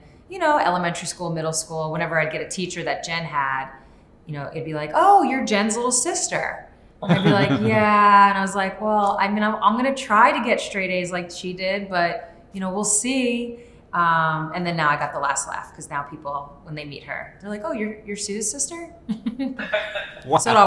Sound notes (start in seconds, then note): 7.0 chuckles; 19.6 Sue chuckles